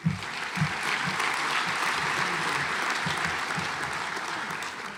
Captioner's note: audience applauds